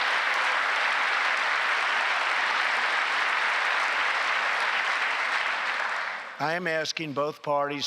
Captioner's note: applause